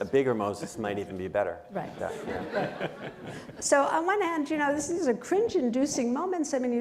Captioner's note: laughter